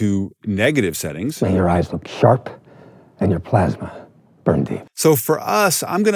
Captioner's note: movie dialogue plays